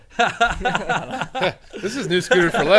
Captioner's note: men laughing